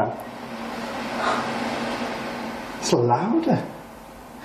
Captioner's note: hand dryer roaring